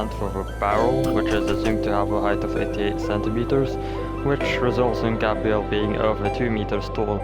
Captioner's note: exhalation